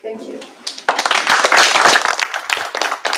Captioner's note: applause